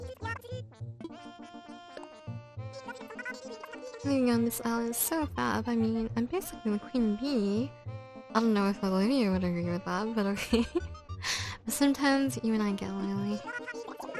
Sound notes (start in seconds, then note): 10.3 laughs